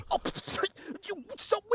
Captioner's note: james splutters